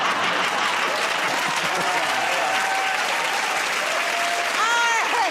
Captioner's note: cheering and applause; laughter; laughs